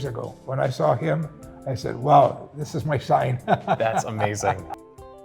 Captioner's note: laughs